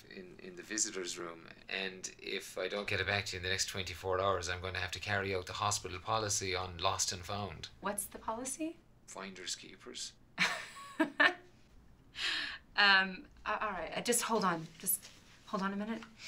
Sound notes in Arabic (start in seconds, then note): 10.6 يضحك